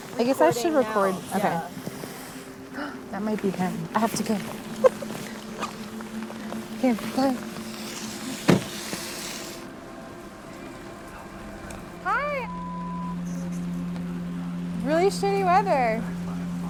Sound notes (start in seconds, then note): 4.6 giggles